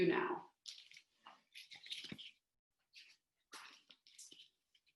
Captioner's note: rustling